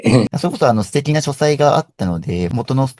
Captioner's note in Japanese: 咳払い